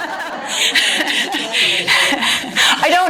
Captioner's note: audience laughter